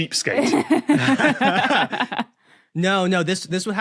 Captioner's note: guests laughing